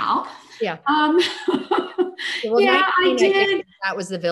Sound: chuckles

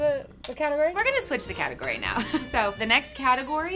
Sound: laughs

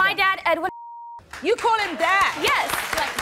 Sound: beep

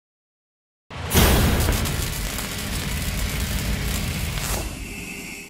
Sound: electricity arcing

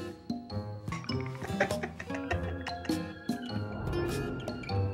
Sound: laughter

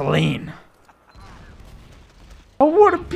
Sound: explosion

